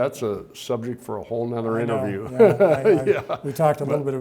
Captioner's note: chuckles